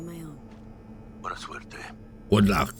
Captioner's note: speaking in foreign language